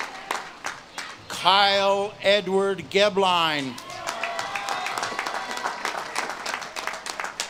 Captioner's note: audience claps and cheers